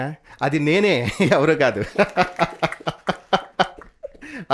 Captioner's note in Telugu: నవ్వు